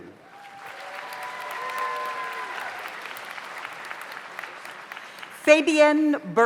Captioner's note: audience cheers; audience applauds